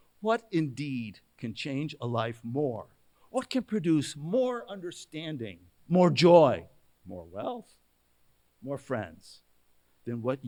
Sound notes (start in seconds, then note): none